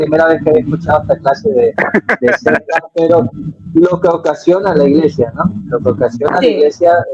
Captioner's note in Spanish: risas